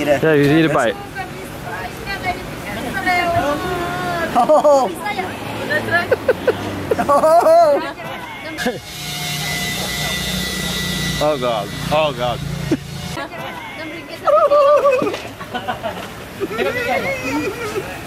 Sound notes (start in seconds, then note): 4.3 laughs loudly; 6.0 laughs; 13.1 laughs; 13.8 high-pitched laughing